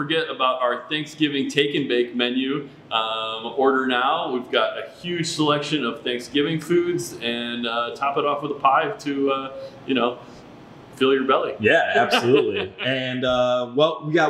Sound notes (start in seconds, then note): 11.7 laughs